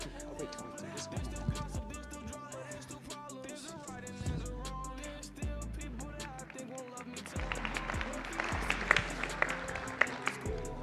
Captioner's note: applause